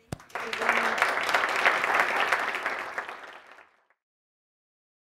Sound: people clapping

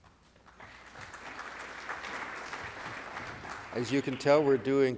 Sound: applause

